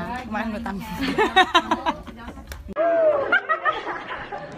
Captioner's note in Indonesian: Tertawa